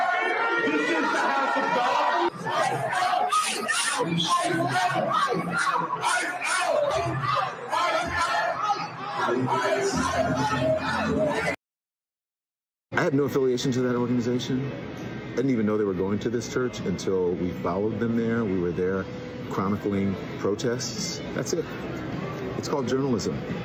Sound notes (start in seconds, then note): 4.9 shouting; 10.2 chanting ice out